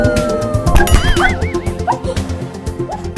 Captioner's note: boing